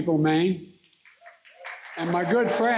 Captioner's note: applause